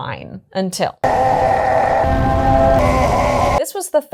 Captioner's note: roaring